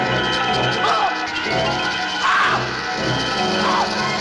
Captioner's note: screaming